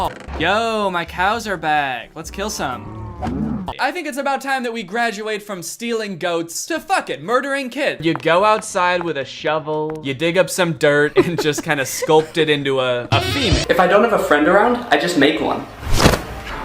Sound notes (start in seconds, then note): 2.5 distressed mooing